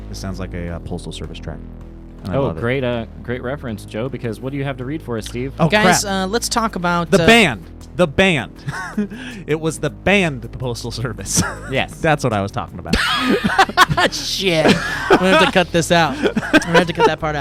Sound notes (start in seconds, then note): 12.9 laughing